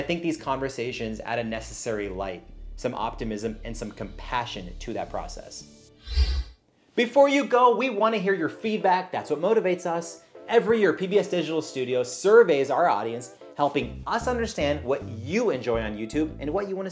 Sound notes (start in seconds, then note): 6.0 air swooshes